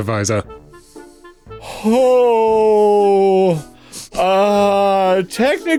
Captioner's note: nervous noises